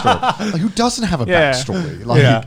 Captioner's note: laughing